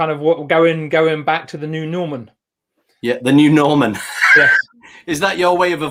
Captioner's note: laughs